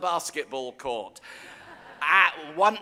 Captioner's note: audience laughing